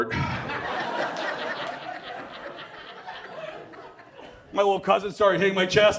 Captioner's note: audience cheers and applauds